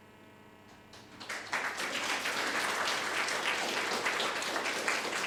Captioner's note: audience applauding